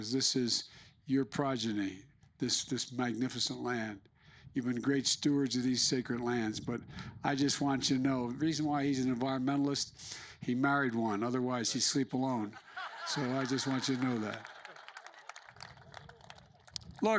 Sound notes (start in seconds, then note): 12.2 laughter